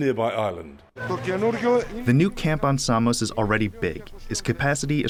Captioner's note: through translator